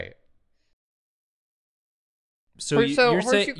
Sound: angry silence

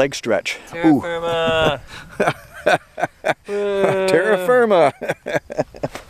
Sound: laughter

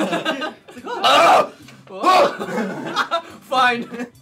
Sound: laughter; groaning; laughing

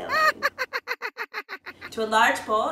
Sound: laughing

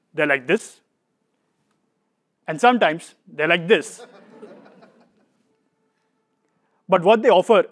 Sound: laugh

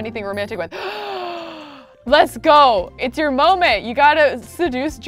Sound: gasping

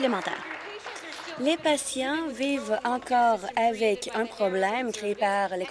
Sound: applause

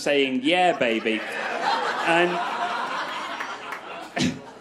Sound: crowd laughs

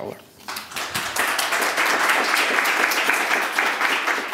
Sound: audience applauding

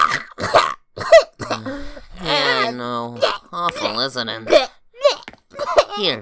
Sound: sighs

